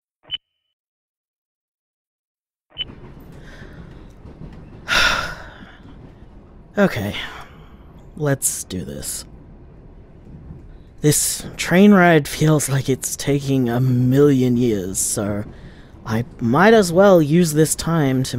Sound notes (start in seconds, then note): 0.2 recorder beep; 2.6 recorder beep; 3.6 BG SFX: Internal train noise; 7.9 sigh